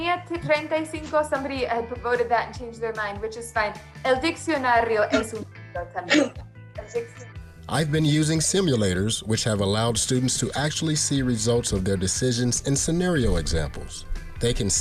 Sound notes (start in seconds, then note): 0.2 Spanish speaking